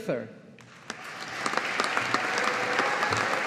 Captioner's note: audience applauding